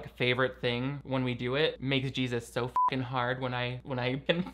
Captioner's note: beep